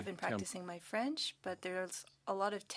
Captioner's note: speaking French